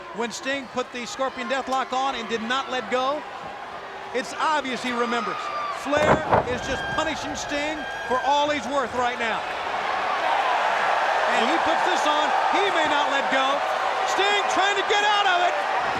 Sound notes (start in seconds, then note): 9.8 crowd cheering